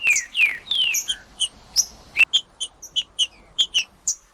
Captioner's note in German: trinca ferro cantando